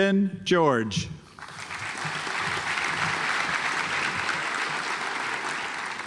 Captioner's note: audience applauds